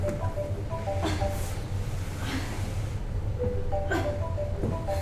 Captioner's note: woman grunts